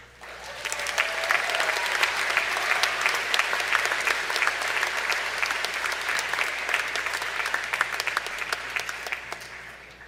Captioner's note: applause